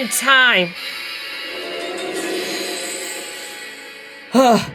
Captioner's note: Magic Buffers Portal opens